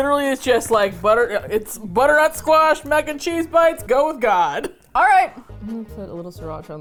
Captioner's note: laughs